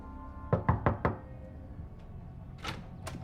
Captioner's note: door knocks; door latch clicks